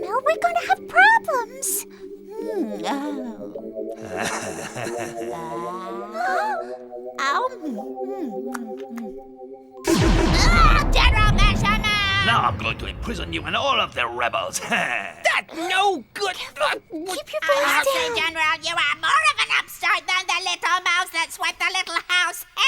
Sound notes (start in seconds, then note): 3.9 Bechamel chuckles; 7.4 witch chomping